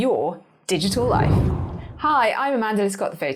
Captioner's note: air whooshing